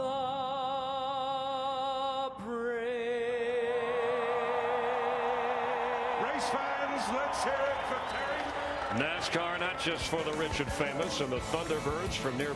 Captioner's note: cheers and applause